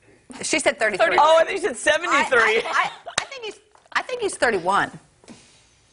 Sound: laughter

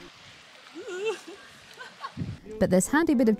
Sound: wobbly yelp

